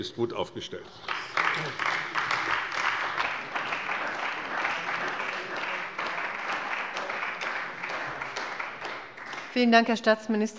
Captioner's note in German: Beifall bei der CDU und dem BÜNDNIS 90/DIE GRÜNEN